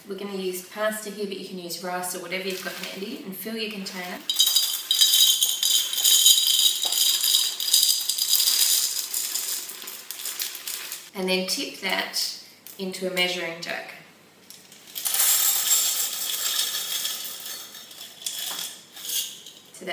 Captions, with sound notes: pasta here, you can use rice or whatever you've got handy Fill your container [pouring clinking noise] and then tip that into a measuring jug.